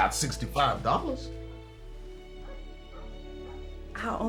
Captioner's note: dog barking in distance